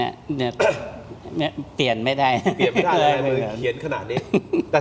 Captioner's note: laughter